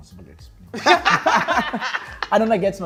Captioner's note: laughter